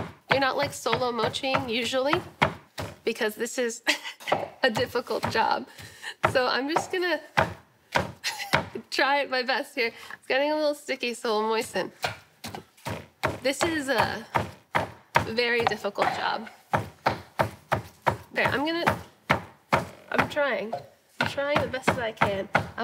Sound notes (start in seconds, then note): 11.7 pounding